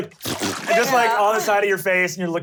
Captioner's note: making farting sounds